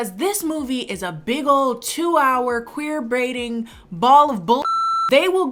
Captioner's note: beep